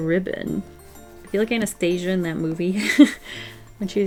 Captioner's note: laughs